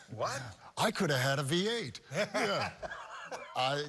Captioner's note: laughing